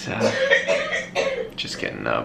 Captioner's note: coughing